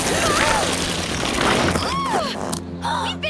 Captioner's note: gasping